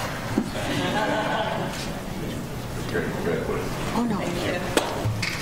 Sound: attendees chuckle

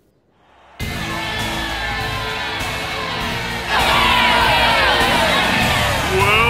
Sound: cheering

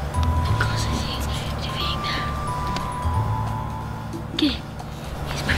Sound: whispering

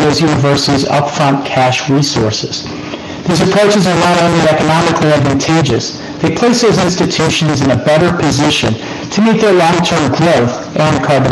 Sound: distorted audio

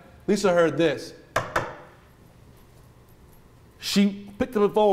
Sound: knocking

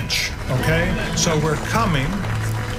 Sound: applause

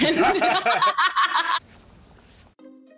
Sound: group laughs

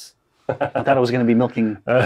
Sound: laughs

